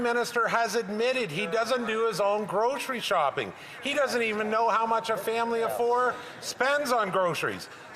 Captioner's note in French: voix de l'interprète